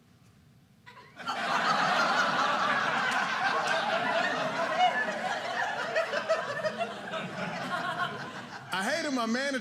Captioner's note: audience laughing